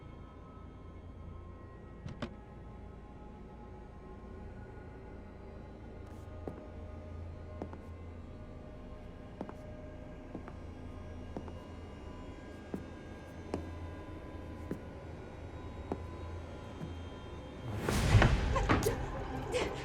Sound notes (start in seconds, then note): 6.6 footsteps clicking; 18.5 Sadie whimpering; 19.6 eerie music